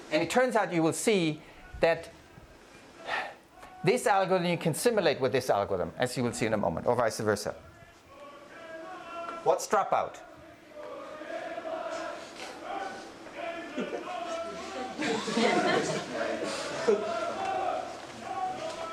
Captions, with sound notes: And it turns out you will see that this algorithm you can simulate with this algorithm, as you will see in a moment or vice versa. What's dropout? (protest chanting) (group chanting)